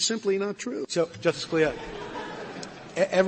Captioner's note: laughter